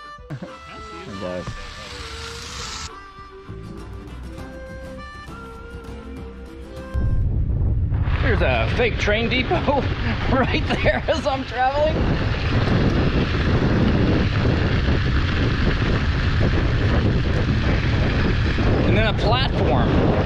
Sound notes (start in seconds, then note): 11.8 wind